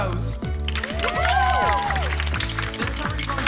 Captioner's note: campers cheering